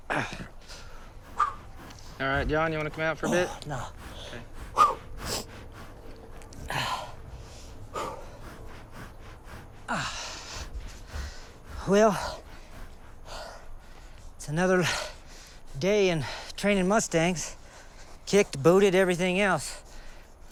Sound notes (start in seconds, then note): 0.0 grunts and stifles a groan; 8.4 groans